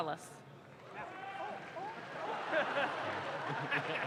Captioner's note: audience claps